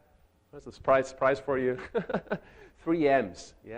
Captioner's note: chuckles